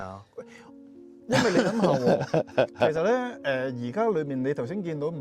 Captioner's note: laughs